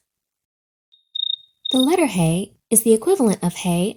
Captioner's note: crickets chirp